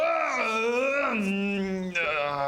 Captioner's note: hrrrgah...uh; nyeeeeeeeummmmmm